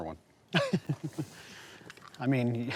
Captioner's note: laughs